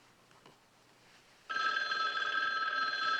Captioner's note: phone ringing